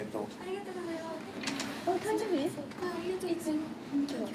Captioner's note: speaking in foreign language